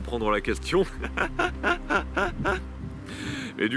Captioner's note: laughs